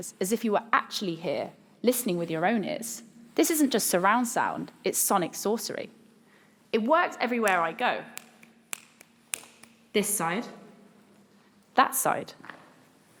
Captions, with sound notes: as if you were actually here, listening with your own ears. This isn't just surround sound. It's sonic sorcery. It works everywhere I go. (Clicks) This side. That side.